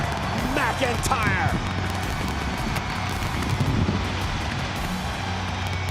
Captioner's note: crowd cheering; fireworks popping; dramatic music continues